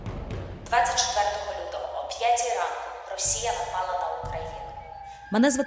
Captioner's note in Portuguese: ucraniano